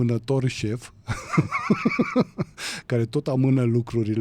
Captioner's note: laughter